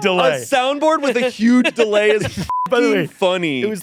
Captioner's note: beep